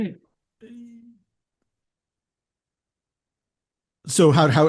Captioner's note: silence